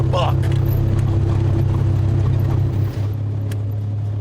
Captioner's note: engine rumbling